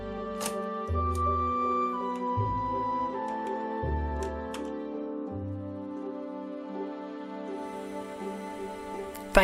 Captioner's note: seductive computery sounds